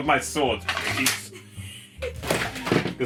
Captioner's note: laughing